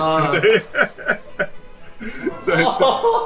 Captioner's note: laughter